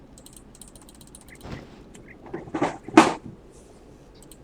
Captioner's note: moving chair sound